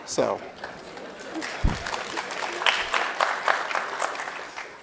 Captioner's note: audience claps